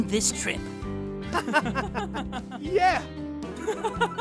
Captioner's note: happy laughter